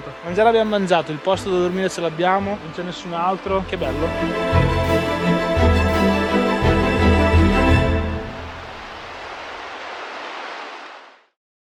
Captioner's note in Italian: Applauso